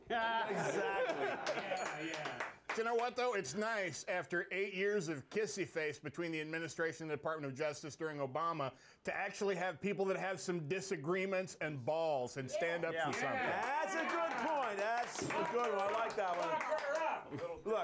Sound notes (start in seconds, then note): 1.7 bell rings; 13.0 applause